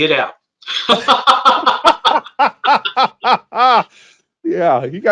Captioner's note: both laugh